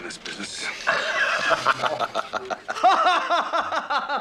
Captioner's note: imaginary langford laughing